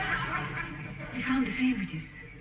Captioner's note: audience snickering